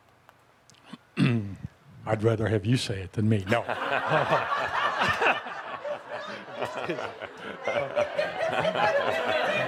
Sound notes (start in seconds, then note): 3.5 laughter; 3.6 much laughter